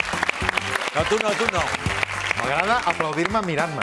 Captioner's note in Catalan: aplaudiments